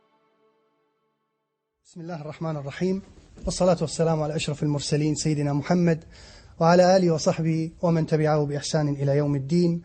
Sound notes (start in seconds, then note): 1.7 Arabic